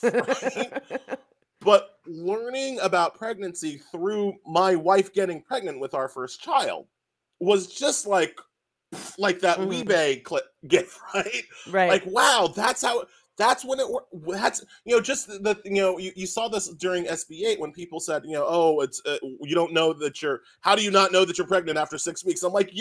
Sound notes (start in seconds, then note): 0.0 laughs; 8.6 exhales loudly